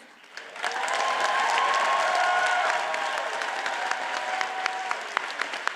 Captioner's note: audience cheers and applauds